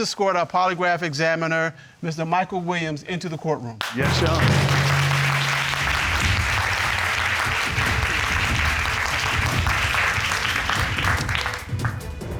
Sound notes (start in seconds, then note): 6.1 audience applauding